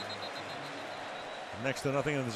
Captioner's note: whistle